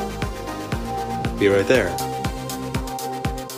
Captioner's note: voiceover